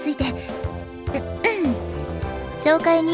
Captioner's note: clears throat